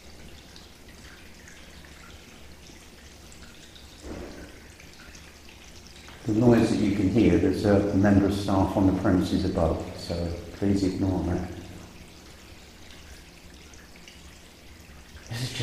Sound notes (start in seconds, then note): 4.0 thump; 12.6 water dripping